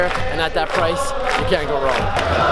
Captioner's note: chanting and cheering